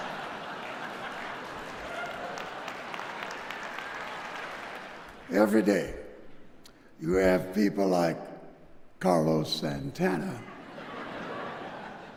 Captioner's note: laughter